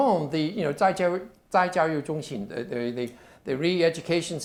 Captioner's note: speaking Chinese